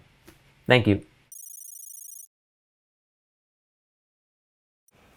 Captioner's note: letters clicking